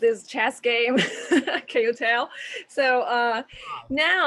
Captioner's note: laughs